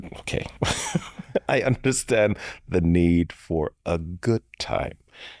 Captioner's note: chuckles